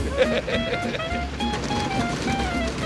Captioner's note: laughs; upbeat music